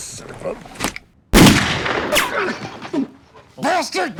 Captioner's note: gunshot